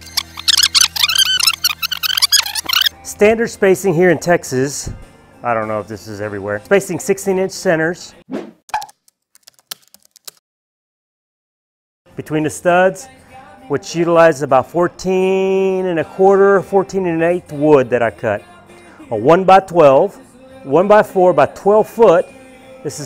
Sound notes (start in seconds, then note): 0.0 squeaky video rewind; 8.7 keys typing